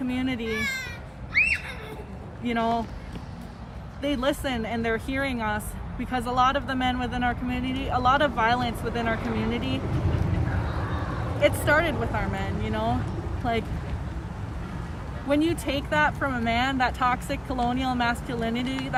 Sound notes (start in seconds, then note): 1.2 child shouting